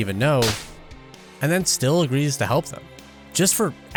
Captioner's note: slap